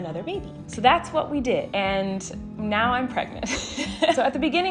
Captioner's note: laughs